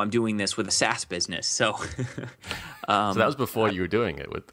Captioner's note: laughs